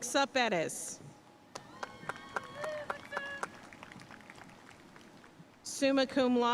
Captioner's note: audience cheering and applauding